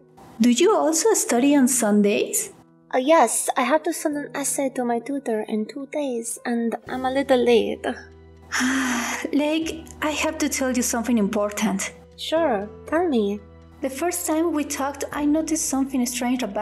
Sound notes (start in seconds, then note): 8.5 sighs